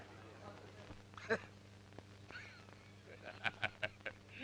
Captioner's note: laughing